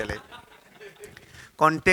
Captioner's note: laugh